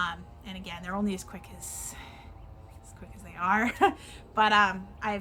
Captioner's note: chuckles